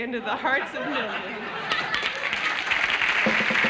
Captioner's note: applause